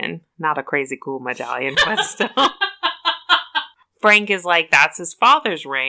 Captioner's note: laughs